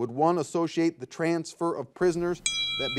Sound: bell rings

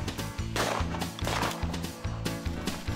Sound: gun firing; fast-paced country music continues

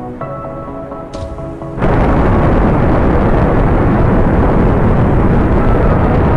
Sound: rocket Booster separation

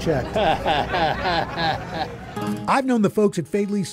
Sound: chuckles

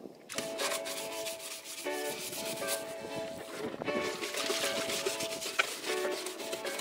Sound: happy jazz music; scrubbing

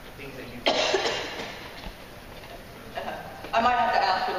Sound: coughing

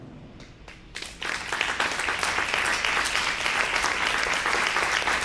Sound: audience clapping

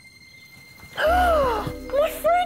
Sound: gasp!

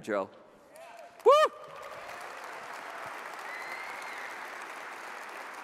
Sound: audience applauds

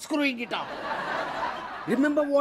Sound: audience laughs

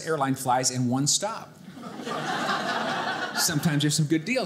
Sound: audience laughing

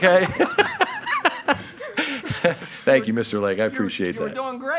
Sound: laughing

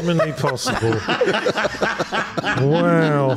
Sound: laughs

